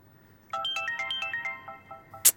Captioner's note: phone ringing